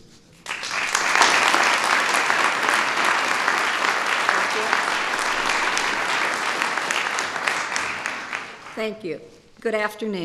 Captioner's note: applause